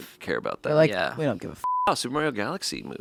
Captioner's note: beeping